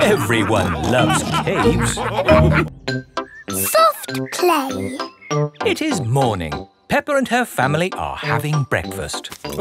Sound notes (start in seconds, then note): 2.3 all laughing